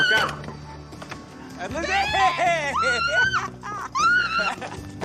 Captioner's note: screams; laughs; liz squeals